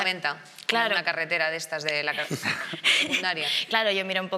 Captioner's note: she laughs